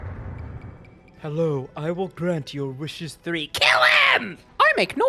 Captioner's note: sullen voice; Spongebob voice